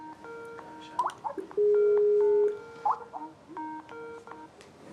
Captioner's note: Skype ringing sound